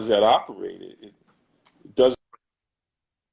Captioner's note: glitch